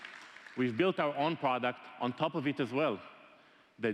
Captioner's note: applause